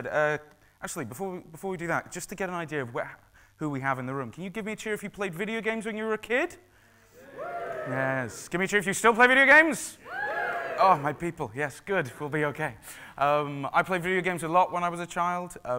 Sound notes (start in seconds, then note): 10.0 cheering